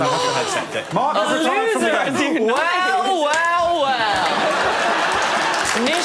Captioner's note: applause